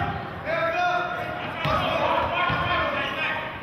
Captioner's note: yelling